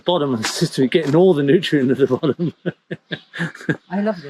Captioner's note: chuckles